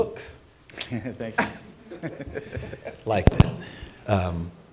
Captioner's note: laughter